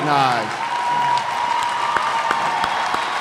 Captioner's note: cheers and applause